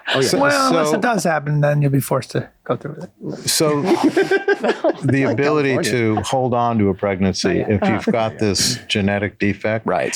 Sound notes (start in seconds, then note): 3.6 all laughing